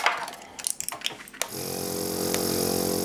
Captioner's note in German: Inhalator brummt